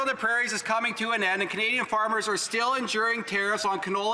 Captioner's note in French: voix de l'interprète